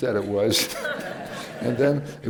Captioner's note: laughter